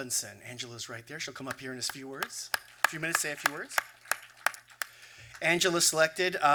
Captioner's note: applause